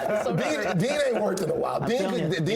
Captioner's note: laughter